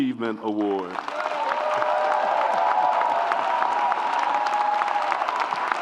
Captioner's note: audience applauds and cheers